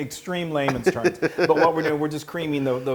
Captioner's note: laugh